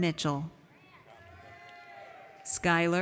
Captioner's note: audience cheers